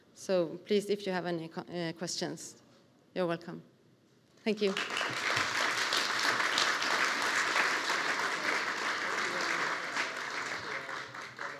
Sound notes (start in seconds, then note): 4.6 audience applauding